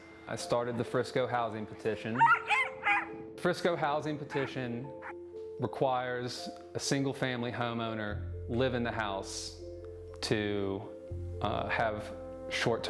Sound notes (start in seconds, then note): 2.1 dog barking